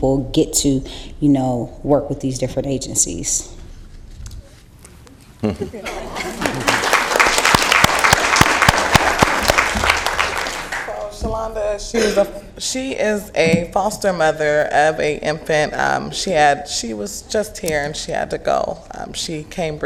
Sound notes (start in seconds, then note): 9.1 applause